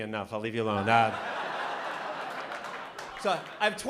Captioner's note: laughter